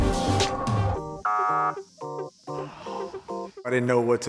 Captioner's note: buzzer sounds